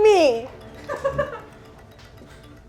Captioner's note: intense music; producer laughing